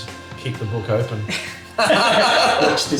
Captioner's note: all laughing